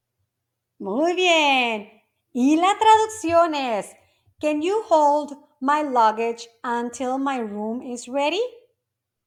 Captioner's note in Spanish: speaking English